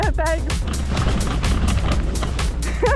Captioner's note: rustling